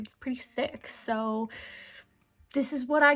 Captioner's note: sucks in breath